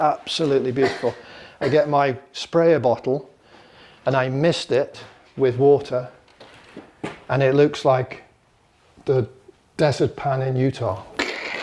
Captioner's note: crunching noise